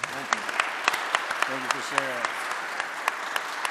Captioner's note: audience clapping